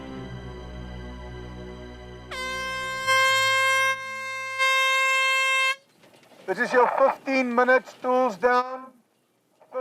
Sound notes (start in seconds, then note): 0.0 tense music; 1.8 klaxon blaring